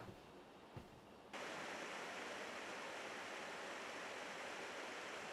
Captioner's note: water babbling